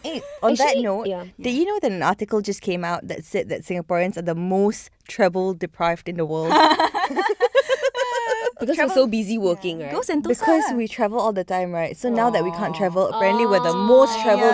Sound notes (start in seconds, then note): 6.4 laughs